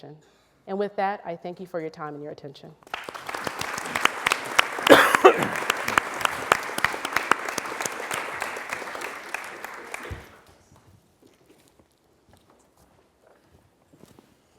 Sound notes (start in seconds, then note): 2.8 applause